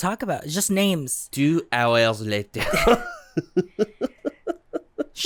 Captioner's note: both giggle